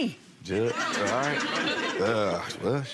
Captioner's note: audience laughs